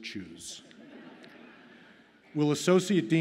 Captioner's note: audience laughs